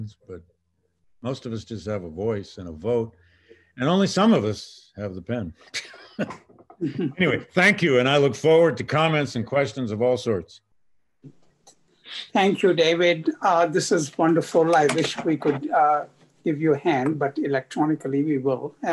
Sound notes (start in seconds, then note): 6.2 laughs